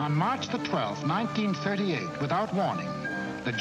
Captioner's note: radio Announcer